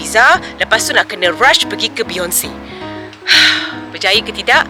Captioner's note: sigh